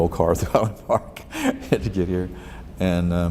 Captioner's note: laughs